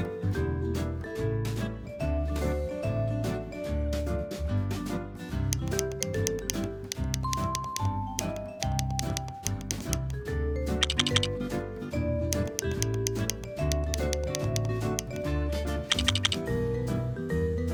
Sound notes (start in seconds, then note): 0.2 happy music continues; 5.3 happy music continues; 5.3 lego blocks clacking